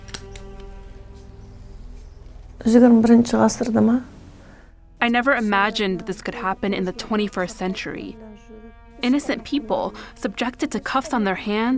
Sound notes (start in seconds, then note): 3.1 speaking foreign language